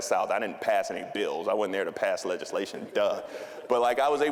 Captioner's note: audience laughing